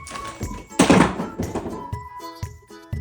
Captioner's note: Funko Pops crashing to the floor